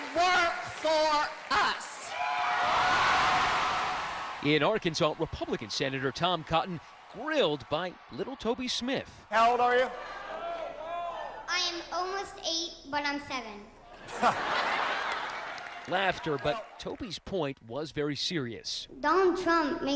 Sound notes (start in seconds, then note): 5.2 cheers and applause